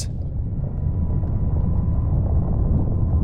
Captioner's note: loud rumbling